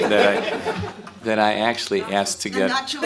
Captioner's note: laughter